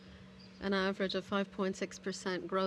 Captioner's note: speaking in french